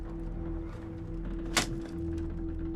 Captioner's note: arrows strike